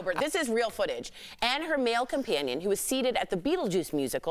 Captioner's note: laughter